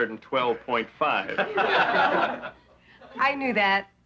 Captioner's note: laughing